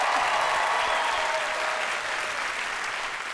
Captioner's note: cheers and applause